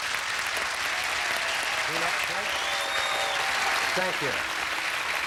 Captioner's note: audience applauding